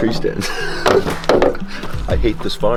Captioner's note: laughs